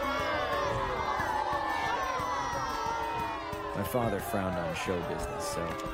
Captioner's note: crowd booing